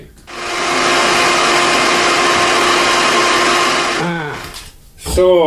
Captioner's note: sound of a heat gun